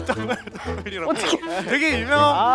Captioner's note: trying to recover, murmuring